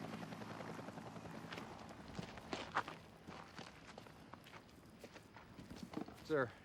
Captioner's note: footstep